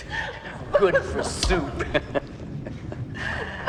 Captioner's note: chuckles